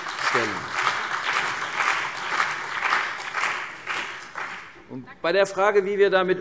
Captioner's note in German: Beifall CDU und BÜNDNIS 90/DIE GRÜNEN